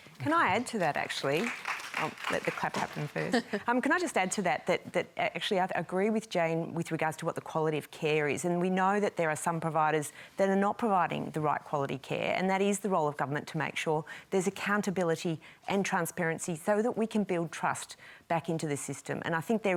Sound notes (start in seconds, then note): 0.2 applause; 3.2 chuckles